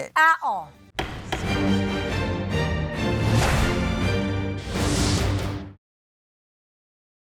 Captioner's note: dramatic music; gavel bangs